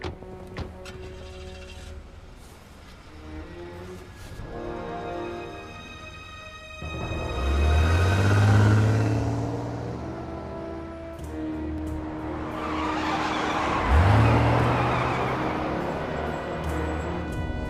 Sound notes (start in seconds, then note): 4.9 ominous music; 13.5 tires screeching